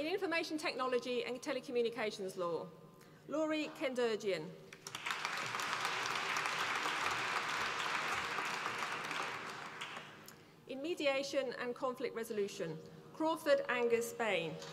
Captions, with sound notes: In Information Technology and Telecommunications Law, Lory Kendirjian. (APPLAUSE) In Mediation and Conflict Resolution, Crawford Angus Bain.